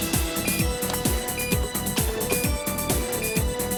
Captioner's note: explosive beeping